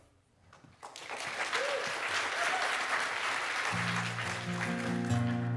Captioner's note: audience applauding; bright music